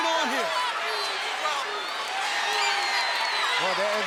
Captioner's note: crowd cheering